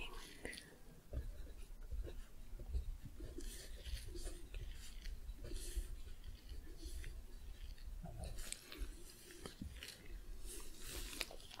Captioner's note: writing, sticky sounds